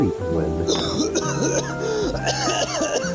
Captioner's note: coughing